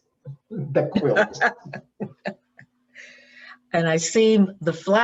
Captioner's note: laughs